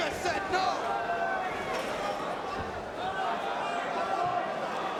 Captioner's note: crowd chattering